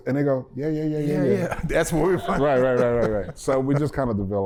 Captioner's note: laughter